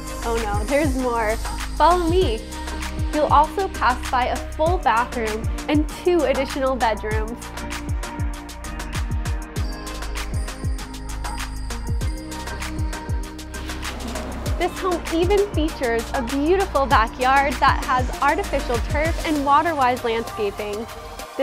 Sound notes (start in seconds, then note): 13.6 door sliding open